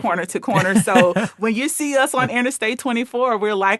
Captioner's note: laughing